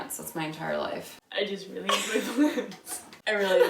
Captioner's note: laughing